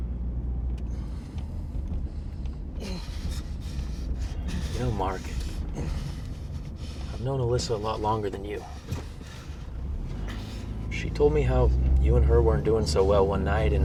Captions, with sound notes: (Mark groaning) - You know, Mark, I've known Alyssa a lot longer than you. She told me how you and her weren't doing so well one night